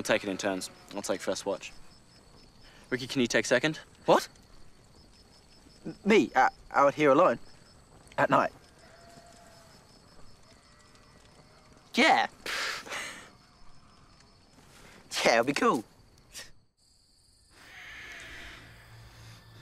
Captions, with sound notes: Yeah, okay. We'll take it in turns. I'll take first watch. -Rikki, can you take second? -What? [stammers] Me? Out here alone? At night? Yeah. [scoffs] Yeah, I'll be cool.